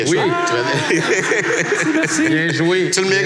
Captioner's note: laughs